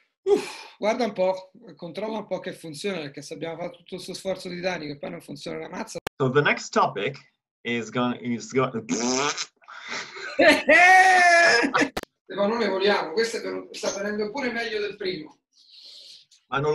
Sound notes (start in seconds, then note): 9.8 loud laughter